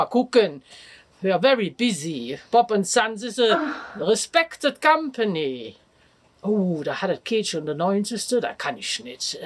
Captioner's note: talking in German; talks in German